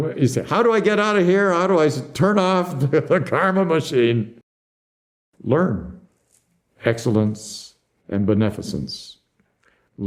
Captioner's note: laughs